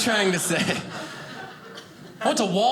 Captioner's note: audience laughing